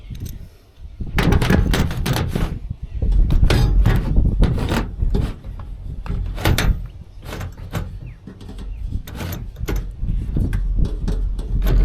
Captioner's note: metal clanking